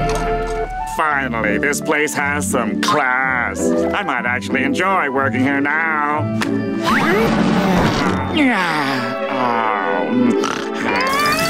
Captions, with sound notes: Finally, this place has some class. I might actually enjoy working here now. [sighing] [snoring]